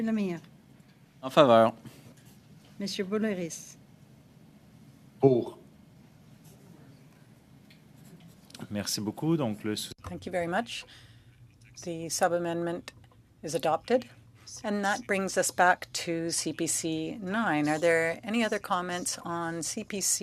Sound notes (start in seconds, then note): 6.4 speaking French